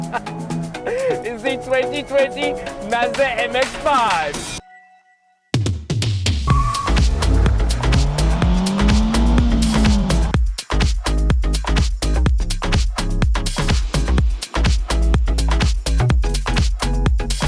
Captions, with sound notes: is the 2020 Mazda MX-5. (bright music) (car engine roaring) (bright music)